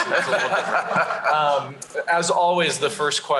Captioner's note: laughter